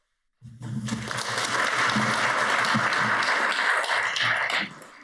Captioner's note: audience applauds